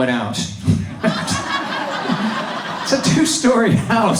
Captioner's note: audience laughs